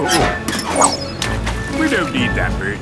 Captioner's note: splashes